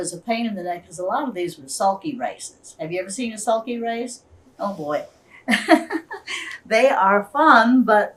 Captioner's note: laughs